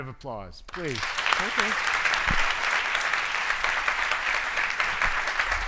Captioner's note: audience applauds